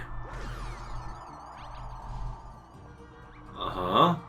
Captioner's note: gaming sounds; instrumental music